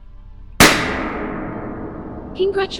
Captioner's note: loud bang